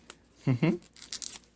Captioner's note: creepy laugh